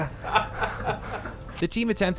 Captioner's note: laughing hysterically